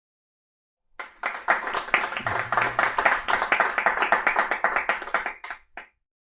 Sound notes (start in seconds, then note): 0.9 clapping